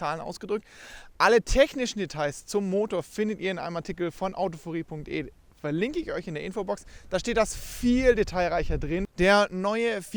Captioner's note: German